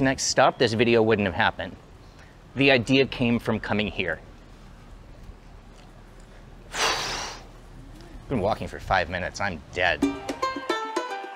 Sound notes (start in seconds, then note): 6.2 exhales